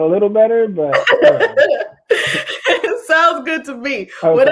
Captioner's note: laughs